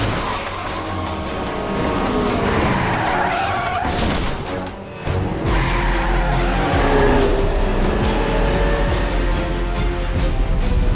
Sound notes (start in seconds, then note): 0.2 engines revving; 3.4 tires screeching